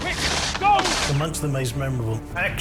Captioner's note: gunfire